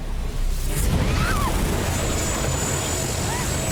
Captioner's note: both scream